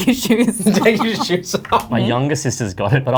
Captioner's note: laughs